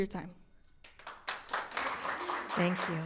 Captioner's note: audience clapping